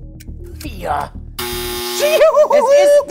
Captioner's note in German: Triumphales Lachen